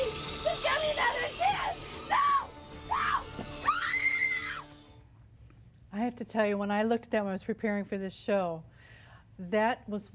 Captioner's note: screaming